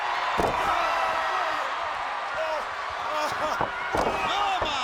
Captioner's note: audience cheering